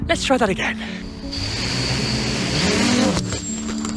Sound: motors spinning

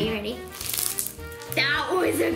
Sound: slime crackling

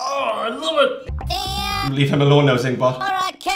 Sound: robot makes noise

